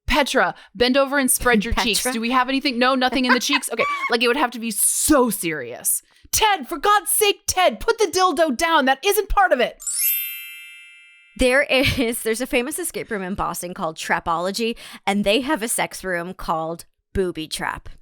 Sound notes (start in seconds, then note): 3.2 laughs; 9.8 music note chime